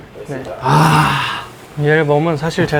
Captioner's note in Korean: 감탄